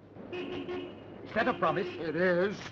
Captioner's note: horn honking